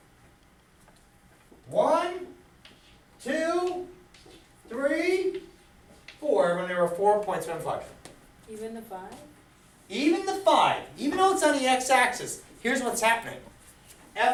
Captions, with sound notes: One, two, three, four. There are four points of inflection. - [Voiceover] Even the five? - Even the five. Even through it's on the x-axis, here's what's happening.